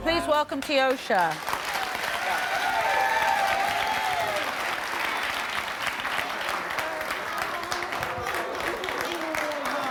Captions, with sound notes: - Please welcome Tiosha. (applause)